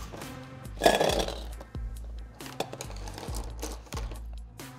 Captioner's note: metal sliding